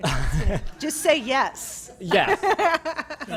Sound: laughter

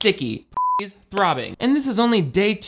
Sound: beep

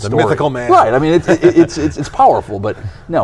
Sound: laughs

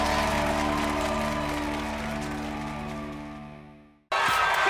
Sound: upbeat music; audience cheering

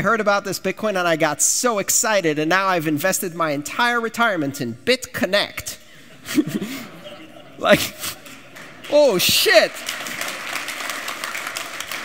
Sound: laughter

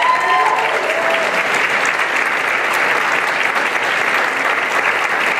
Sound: applause and cheering

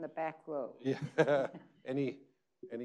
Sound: laughing

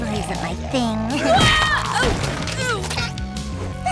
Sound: groaning

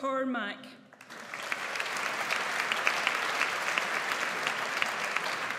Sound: audience applauds

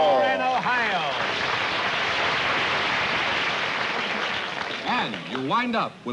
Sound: applause

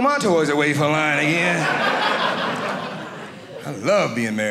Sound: audience laughing

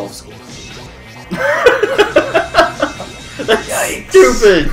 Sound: laughs

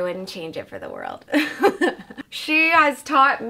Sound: chuckles

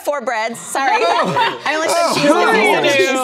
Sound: laughing

